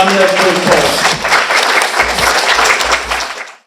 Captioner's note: applause